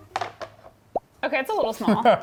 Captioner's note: plastic clinking